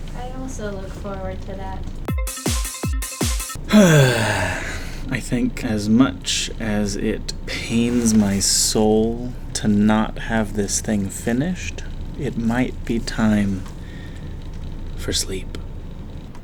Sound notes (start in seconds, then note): 2.2 dance music; 3.6 deep sigh